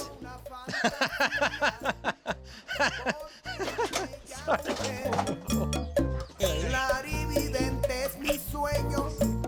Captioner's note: laughter